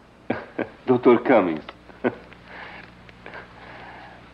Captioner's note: chuckles